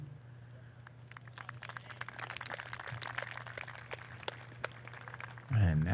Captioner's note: applause